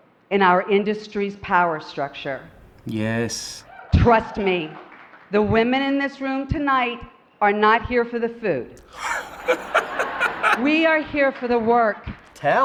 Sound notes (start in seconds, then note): 8.6 laughs